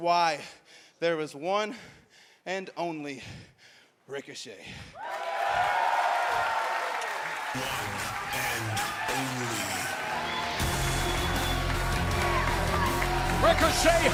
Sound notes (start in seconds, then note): 6.8 crowd cheering